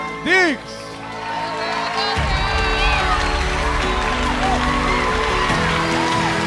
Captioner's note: audience cheering; bright music